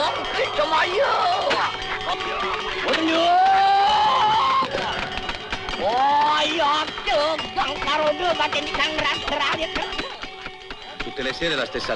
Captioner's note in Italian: urlo